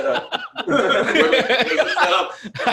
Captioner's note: laughs; laughter and voices overlapping